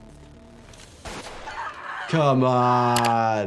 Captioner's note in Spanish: disparos de pistola; la víctima grita